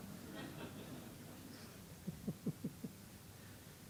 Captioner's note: laughter